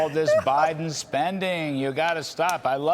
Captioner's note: laughter